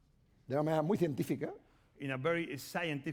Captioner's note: speaking spanish